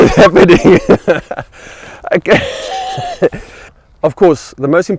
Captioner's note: laughing